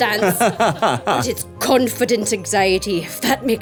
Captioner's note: everyone laughing